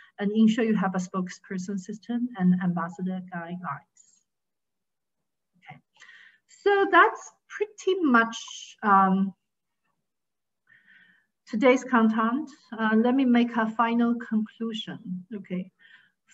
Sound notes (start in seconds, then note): none